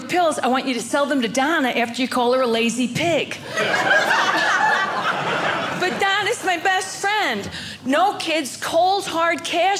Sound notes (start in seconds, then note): 3.4 audience laughing